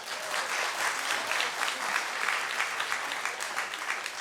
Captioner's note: audience clapping